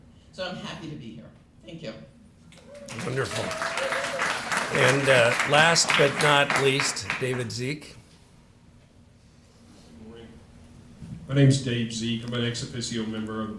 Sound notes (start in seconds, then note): 2.5 applause